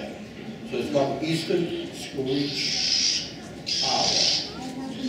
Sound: owl screeching

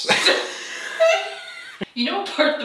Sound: both laugh

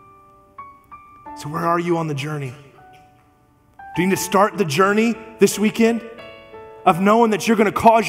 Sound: none

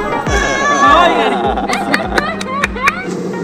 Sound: laughter

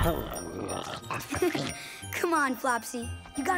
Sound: giggling

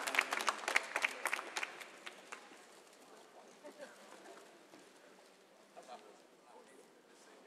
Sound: applause

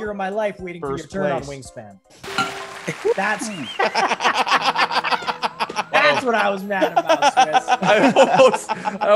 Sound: laugh

